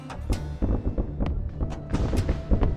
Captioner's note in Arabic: موسيقى شرق أوسطية; انفجار ذخائر بعيدة; يستمر الفلوت والموسيقى الميكانيكية